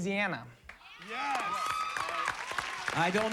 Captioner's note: applause